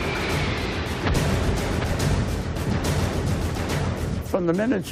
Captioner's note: bombs blasting